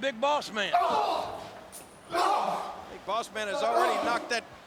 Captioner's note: Test groaning